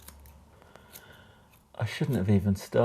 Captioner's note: scissors snipping